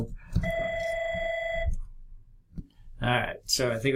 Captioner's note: phone rings